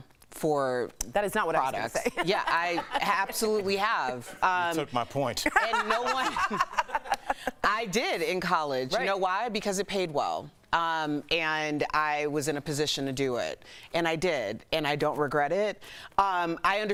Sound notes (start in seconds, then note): 8.1 laughter